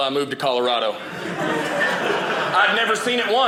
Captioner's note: audience laughing